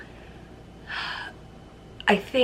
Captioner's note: sighs